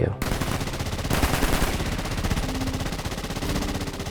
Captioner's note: rapid gunfire